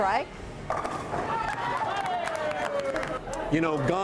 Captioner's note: clapping and cheering